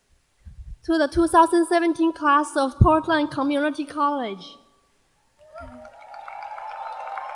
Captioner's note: applause